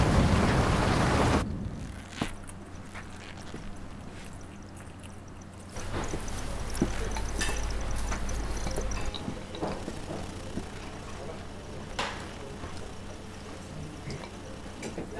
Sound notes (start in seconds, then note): 2.1 shoes squeaking; 7.6 dishes clattering